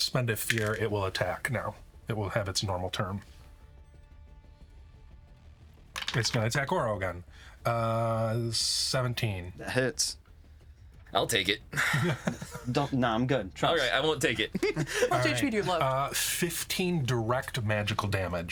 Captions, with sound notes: Sir Malcolm Vane's dead body. Oh. Begins to split. Oh, not this shit. (laughing) You did it, why can't he? His arms begin to swell.